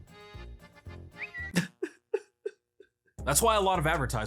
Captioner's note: sobbing